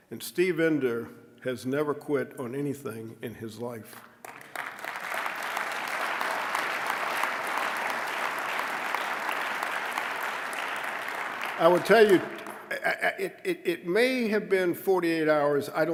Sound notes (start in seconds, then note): 4.2 applause